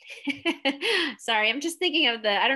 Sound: laughing

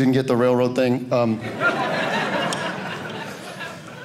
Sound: audience laughing

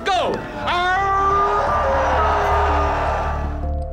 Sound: howling

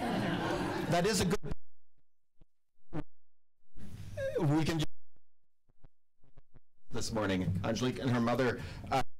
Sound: audio cutting out

